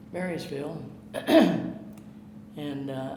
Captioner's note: clearing throat